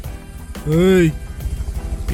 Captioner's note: commanding voice